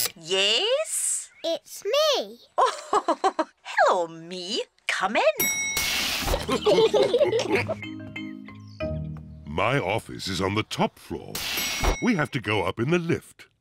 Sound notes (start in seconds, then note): 2.6 laughs; 5.4 elevator bell dings; 6.3 all laughing; 10.7 elevator bell dings